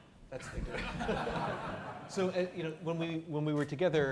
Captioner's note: audience laughing